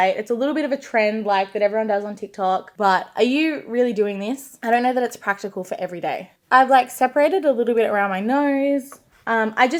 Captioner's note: none